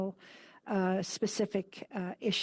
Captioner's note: speaking French